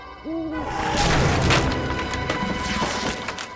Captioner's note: door cracking; pants ripping